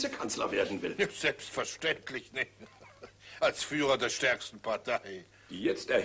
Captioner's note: giggles